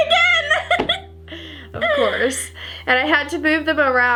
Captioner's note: laughs